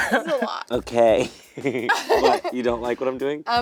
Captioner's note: laughing